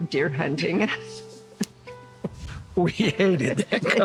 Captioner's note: chuckles